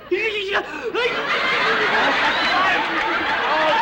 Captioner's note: laughter